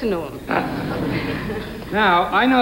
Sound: laughing

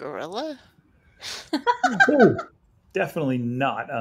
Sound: laughing

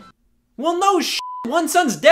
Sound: beep

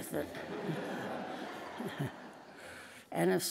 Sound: laughing

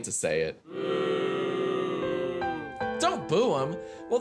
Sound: children booing

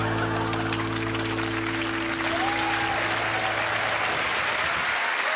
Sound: crowd applauds and cheers

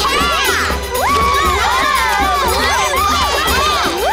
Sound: cheering

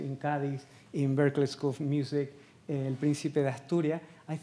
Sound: speaking Spanish

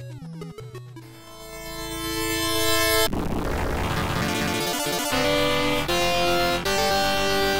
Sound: game audio

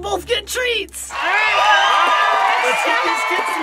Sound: all cheering

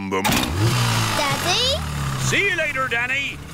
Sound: engine starts

